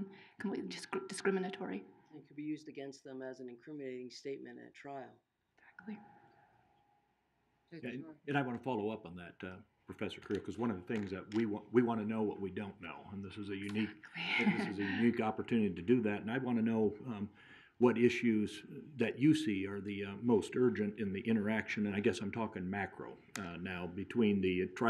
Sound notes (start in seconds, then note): 15.8 laughing